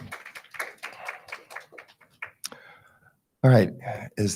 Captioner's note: attendees clapping